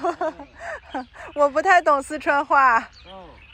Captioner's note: chongqing dialect